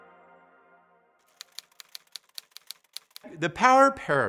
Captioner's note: typewriter clacking